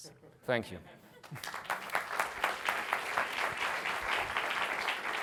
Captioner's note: applause